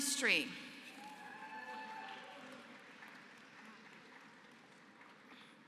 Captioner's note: applause